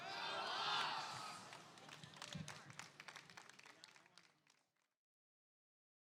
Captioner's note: attendees clapping